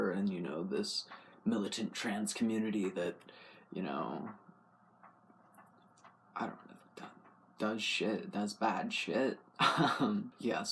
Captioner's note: laugh